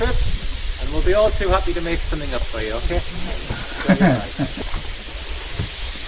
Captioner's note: laughing